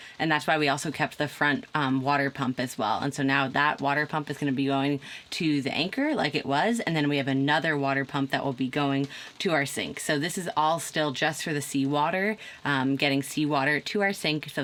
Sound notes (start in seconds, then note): none